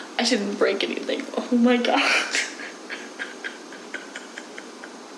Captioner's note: laughs